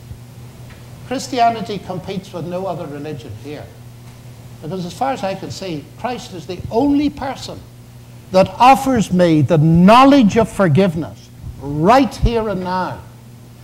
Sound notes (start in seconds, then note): none